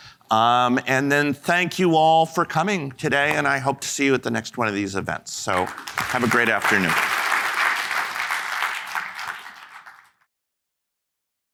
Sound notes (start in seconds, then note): 7.8 audience applauding